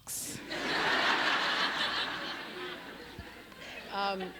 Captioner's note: crowd laughs